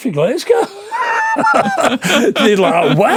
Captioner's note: laughing